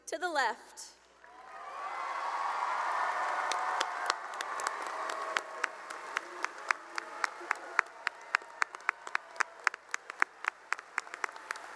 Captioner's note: cheering and applause